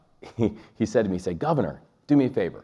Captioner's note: chuckles